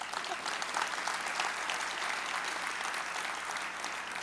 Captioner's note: audience clapping